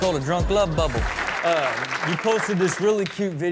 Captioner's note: audience claps